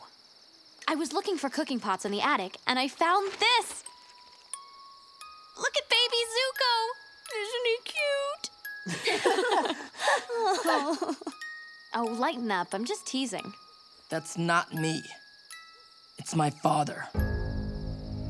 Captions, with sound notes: I was looking for cooking pots in the attic, and I found this. Look at Baby Zuko! Isn't he cute? [laughing] Oh lighten up. I'm just teasing. That's not me. It's my father.